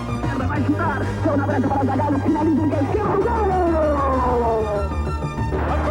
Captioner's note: announcer speaking foreign language